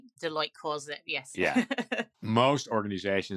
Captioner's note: laughs